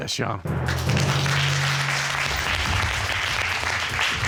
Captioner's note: audience applauding